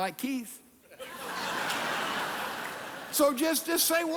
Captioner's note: congregation laughing